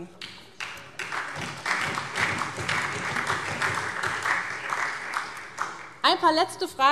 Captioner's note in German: Beifall SPD und vereinzelt Freie Demokraten